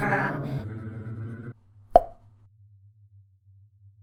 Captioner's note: rumbling stops; pop!